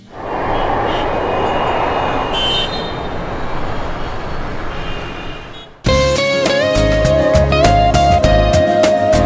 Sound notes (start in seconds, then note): 0.0 airplane flying & cars speeding on road; 2.3 traffic sound